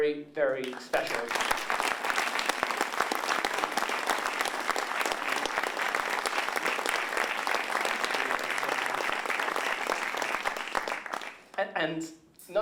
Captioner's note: applause